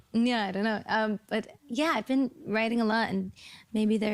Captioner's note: speaking at a higher pitch